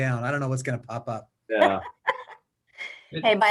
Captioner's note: more laughter